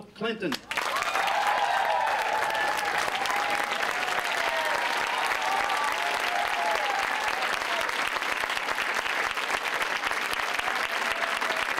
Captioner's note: cheers and applause